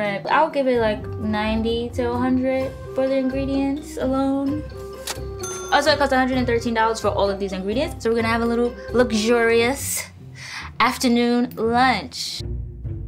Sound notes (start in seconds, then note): 5.4 cash register dinging